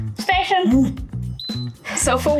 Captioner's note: whistle